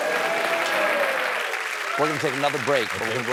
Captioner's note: applause